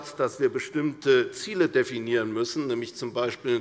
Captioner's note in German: none